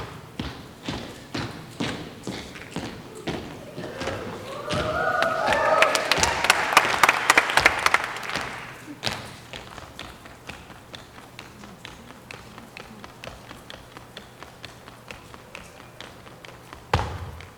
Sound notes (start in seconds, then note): 4.6 audience applauding and cheering; 9.0 tapping